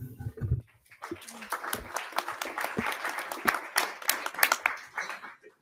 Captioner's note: audience applauding